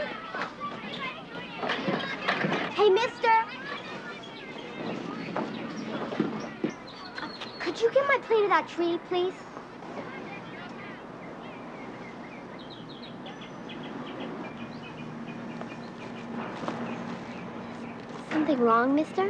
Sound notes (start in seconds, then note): 9.7 children playing; 10.7 birds tweeting